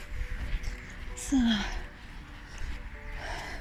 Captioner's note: traffic + music